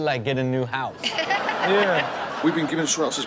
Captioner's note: everyone laughs